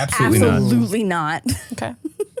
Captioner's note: laughs